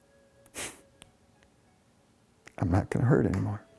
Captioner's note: sniffs